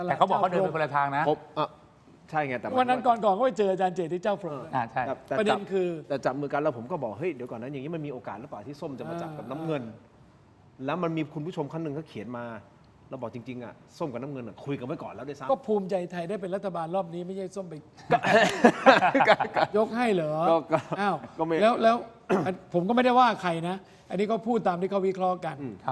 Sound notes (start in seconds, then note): 18.0 laughs